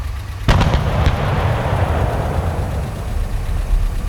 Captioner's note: explosion rumbling; explosion booming